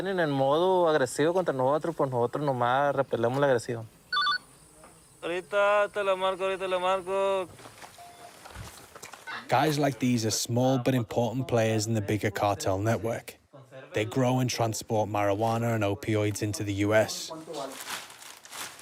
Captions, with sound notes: (SPEAKS INTO RADIO) Guys like these are small but important players in the bigger cartel network. They grow and transport marijuana and opioids into the US.